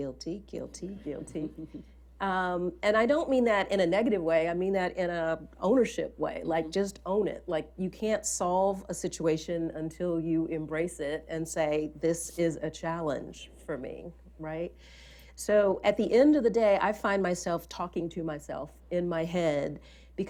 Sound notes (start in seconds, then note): 1.2 laughter